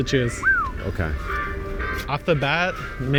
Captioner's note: whistles